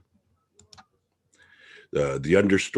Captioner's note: mouse clicking